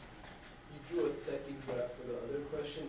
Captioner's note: voiceover